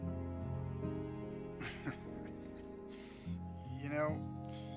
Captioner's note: chuckles